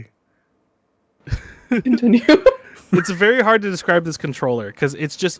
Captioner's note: laughing